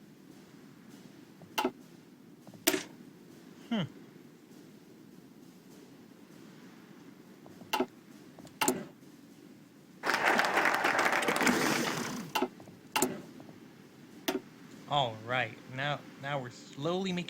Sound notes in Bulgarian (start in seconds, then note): 3.4 Аплодисменти